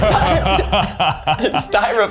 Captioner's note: laugh